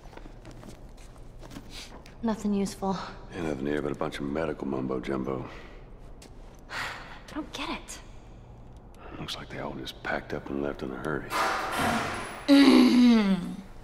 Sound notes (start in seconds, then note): 6.6 Ellie sighs; 11.3 distant bang